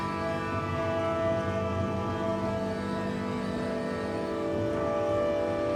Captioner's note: faint machine whirring